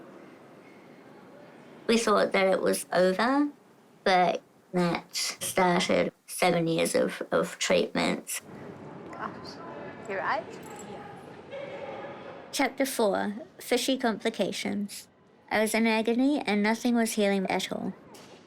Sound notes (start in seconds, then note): none